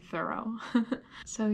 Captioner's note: chuckles